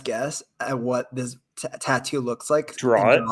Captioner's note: chuckles